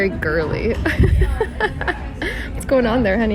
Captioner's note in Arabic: يضحك